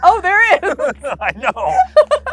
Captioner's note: both laughing